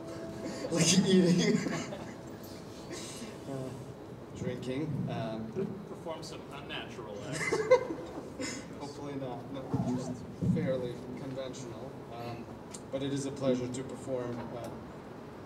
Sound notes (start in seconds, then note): 0.0 sporatic conversation